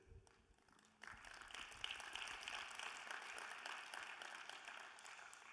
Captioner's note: audience applauding